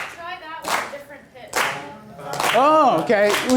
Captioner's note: voiceover